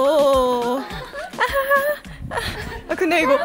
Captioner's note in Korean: 꺄하하